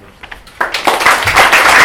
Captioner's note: applause